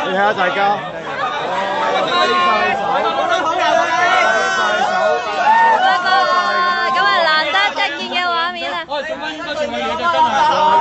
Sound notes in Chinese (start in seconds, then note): 4.1 市民的歡呼